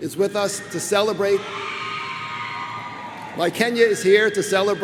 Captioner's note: crowd cheers